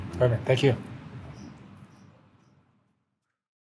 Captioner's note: birds chirp